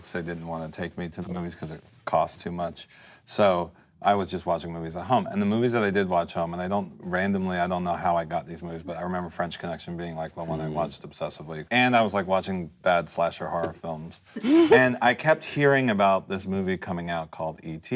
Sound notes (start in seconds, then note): 14.4 laughing